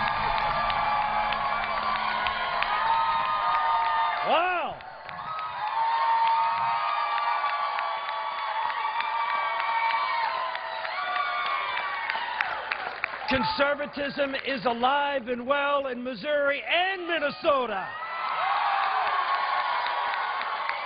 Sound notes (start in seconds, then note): 4.7 applause